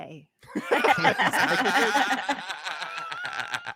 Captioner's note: laughs